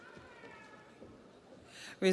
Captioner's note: audience applauds